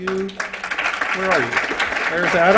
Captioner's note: applause